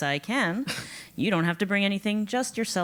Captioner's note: laugh